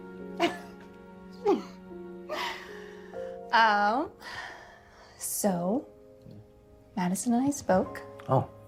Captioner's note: laughs